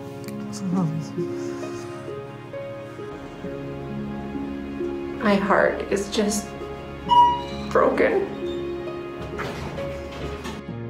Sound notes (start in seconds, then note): 7.0 beep